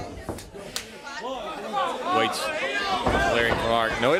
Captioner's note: crowd chatter